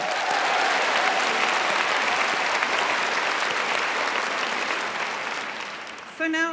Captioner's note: applause